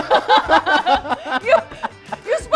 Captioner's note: laughing